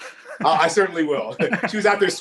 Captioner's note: laughing